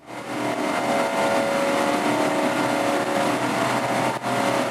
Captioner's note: engines revving